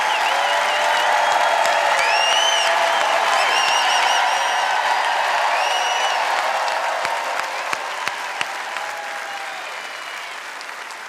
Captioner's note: cheers and applause